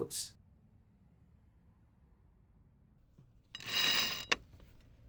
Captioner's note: buzzing